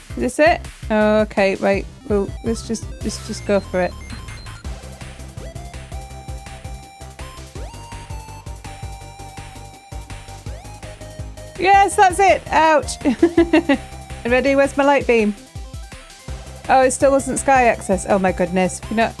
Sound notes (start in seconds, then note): 13.3 laughing